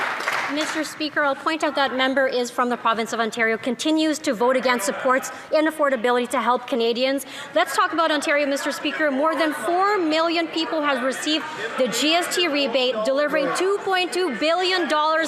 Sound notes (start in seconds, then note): 1.7 some Applause